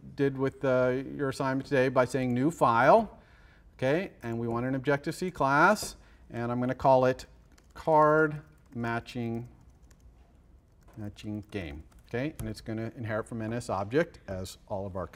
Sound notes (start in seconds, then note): 9.5 pause